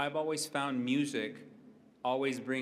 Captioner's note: none